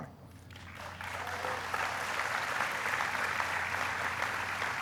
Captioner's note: applauding